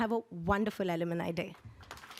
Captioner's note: applause